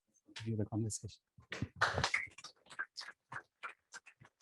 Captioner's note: applause